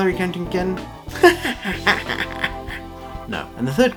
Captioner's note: maniacal laughter